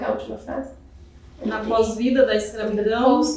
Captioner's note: speaking portuguese